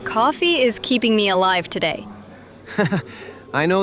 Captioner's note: laughs